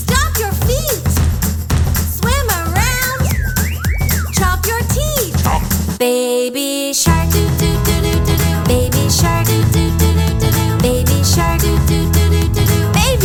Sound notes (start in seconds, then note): 0.0 stomp, stomp; 2.8 silly whistle; 5.5 chomp, chomp